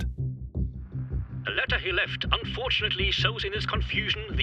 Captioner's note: news, English